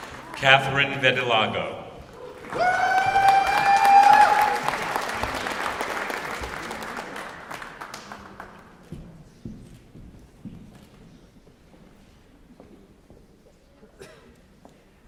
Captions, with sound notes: Katherine Vitalogo. [ Applause ]